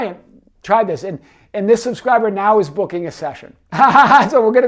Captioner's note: laughs